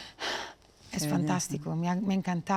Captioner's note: sighs